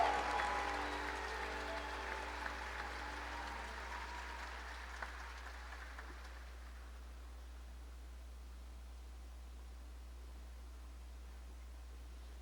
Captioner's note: cheers and applause